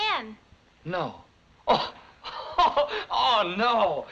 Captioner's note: laughs